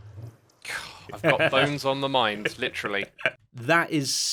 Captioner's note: sighs